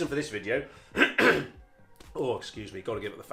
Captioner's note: clears throat